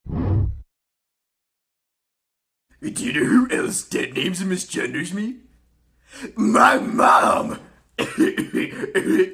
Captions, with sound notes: *muscle man voice* but do you know who else deadnames and misgenders me? my mom!